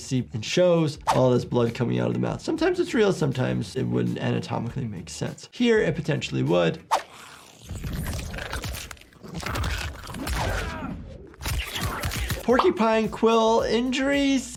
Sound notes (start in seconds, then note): 6.6 porcupine snarls; 11.1 fighter groans